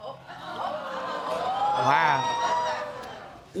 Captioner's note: audience exclaiming